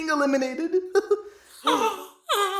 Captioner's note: gasp